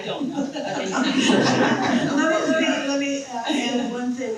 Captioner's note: people laughing